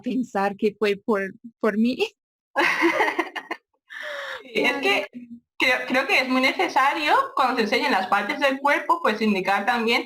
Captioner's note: laugh